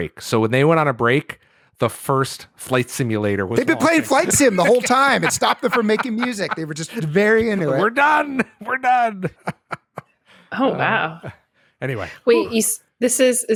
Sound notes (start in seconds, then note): 9.5 laughter